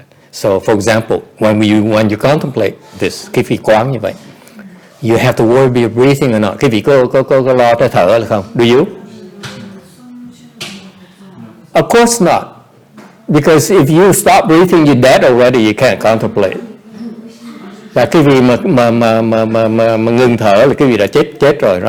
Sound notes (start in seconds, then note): 9.0 background chattering